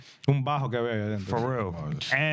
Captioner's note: speaking In Spanish